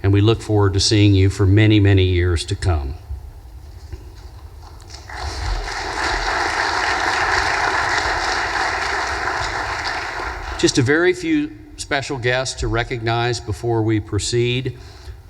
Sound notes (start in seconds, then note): 4.8 audience applause